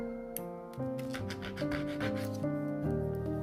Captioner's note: sandpaper scratching